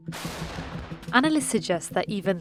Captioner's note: loud gunfire blasts